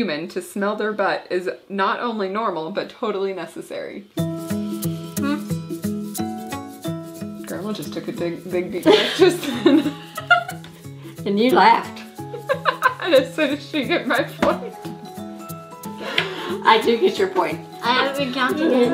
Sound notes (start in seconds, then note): 3.9 upbeat music; 8.8 laughing; 12.2 laughing; 16.0 both laughing